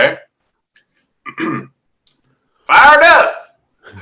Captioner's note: clears throat